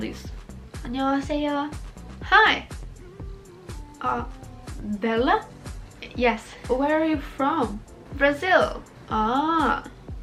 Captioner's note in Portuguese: em ingles